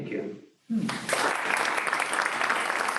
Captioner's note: clapping